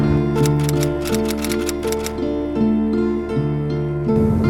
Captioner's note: typewriter keys clicking